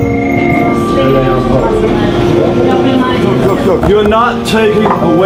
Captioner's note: dramatic music; men chattering